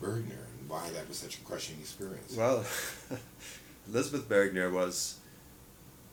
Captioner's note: laughs